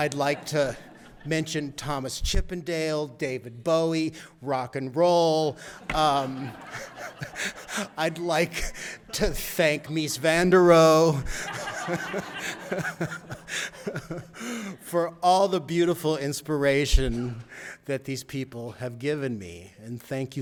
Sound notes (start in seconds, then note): 6.6 audience laughter